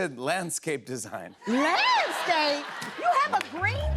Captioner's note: laughter